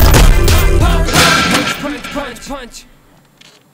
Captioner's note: Thud